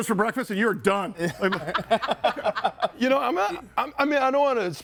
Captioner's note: group laughs